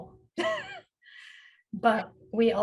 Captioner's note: chuckles